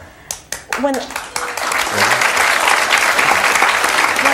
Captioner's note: audience clapping